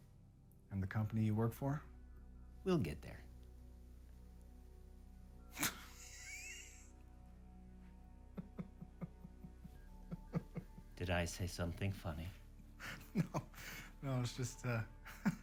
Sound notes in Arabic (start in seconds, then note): 5.5 يضحك